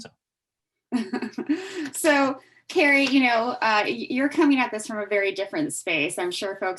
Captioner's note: laughs